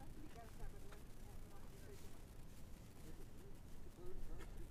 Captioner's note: people chattering faintly